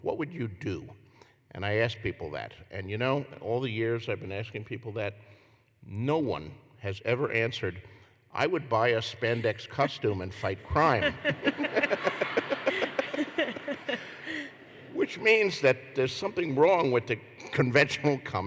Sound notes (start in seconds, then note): 10.6 laughter